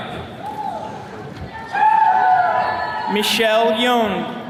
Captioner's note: attendees cheering